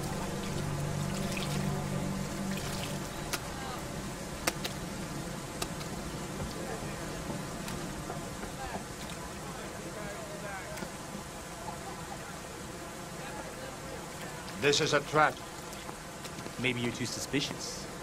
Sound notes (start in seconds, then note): 4.4 slapping against rocks